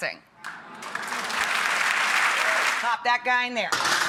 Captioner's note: audience applauds